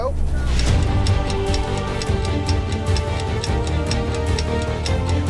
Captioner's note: clock ticking